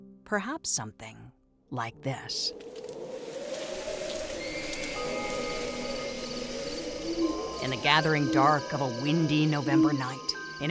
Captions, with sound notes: Perhaps something like this. (wind howling) (leaves rustling) (eerie music) (insects chirping) In the gathering dark of a windy November night,